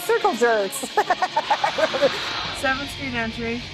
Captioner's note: woman laughing